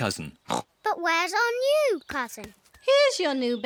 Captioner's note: oinks